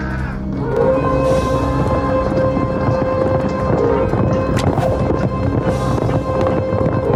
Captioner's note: dramatic music; horses trotting